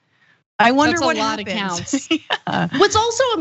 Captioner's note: laugh